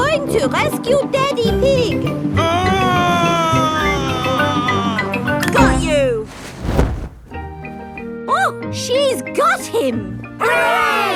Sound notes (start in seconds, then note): 2.4 screaming